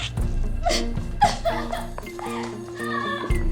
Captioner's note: crying